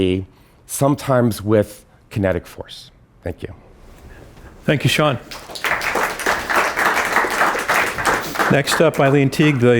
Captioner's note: applause